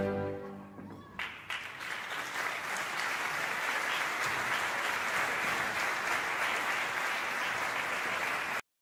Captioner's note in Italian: applauso